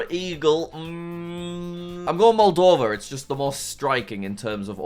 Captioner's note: hums